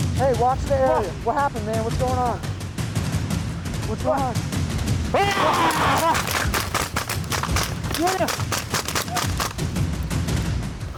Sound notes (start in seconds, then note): 5.1 man yelling; 5.3 gun firing